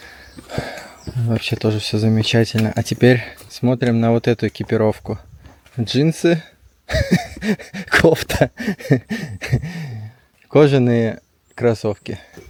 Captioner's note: laughs